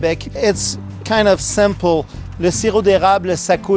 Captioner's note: speaking in French